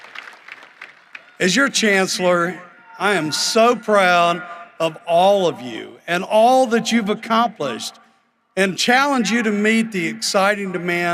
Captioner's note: cheering and applause